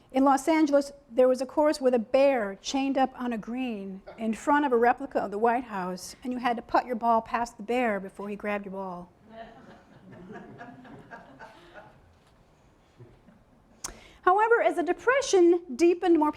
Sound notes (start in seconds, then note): 9.3 audience laughing